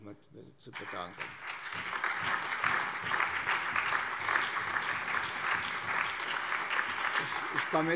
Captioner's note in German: Allgemeiner Beifall